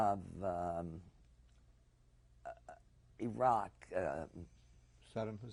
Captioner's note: pauses for 3 seconds